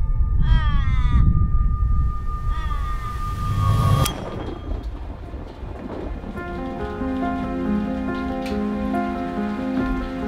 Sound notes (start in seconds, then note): 0.4 crows cawing; 10.0 rain pattering